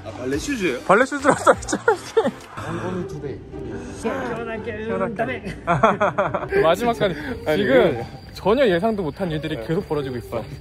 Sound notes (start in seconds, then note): 5.4 bitter laughter